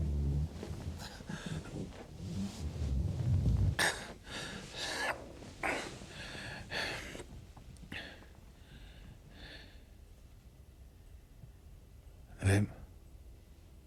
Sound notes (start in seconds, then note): 0.0 heavy breathing continues; 8.0 heavy breathing continues